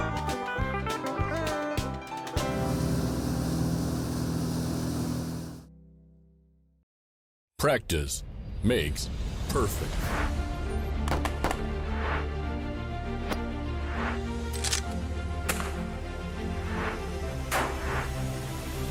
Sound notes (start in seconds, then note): 2.5 boat engine humming; 9.7 bold music; 11.1 guns firing